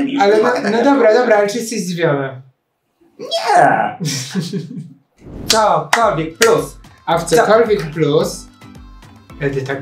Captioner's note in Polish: śmiech